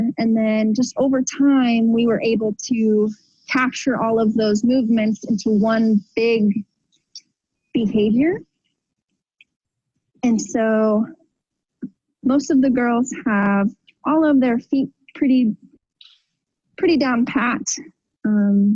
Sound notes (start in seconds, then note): none